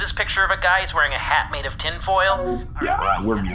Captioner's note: call chimes